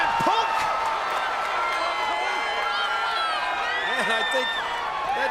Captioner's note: crowd cheers